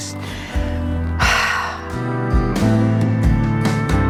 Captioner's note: sigh